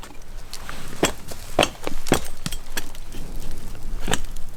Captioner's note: platform clanking